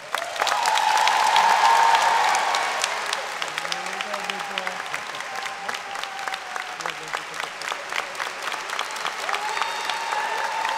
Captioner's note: applause and Cheering